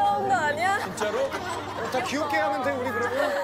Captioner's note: hehehe